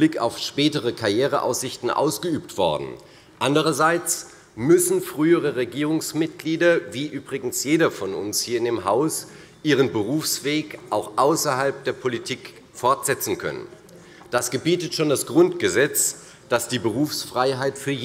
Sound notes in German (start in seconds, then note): none